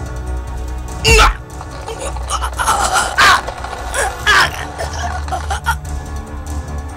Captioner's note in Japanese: 首に食いつく音：ドッ！...ガリガリガリ